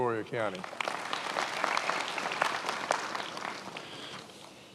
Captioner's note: many applauding